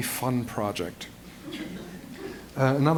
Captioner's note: laughter